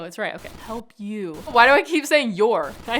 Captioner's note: laughing; screen hissing